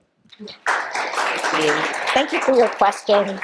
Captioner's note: applause